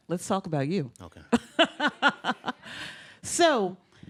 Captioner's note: laughs heartily